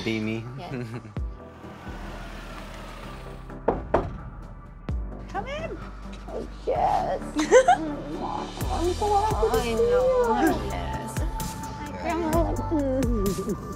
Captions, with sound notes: - Be me. (knocking) - Come in! (laughing and greeting)